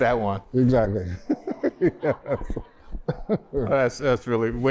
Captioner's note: laughter